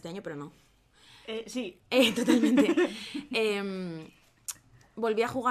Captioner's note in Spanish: risas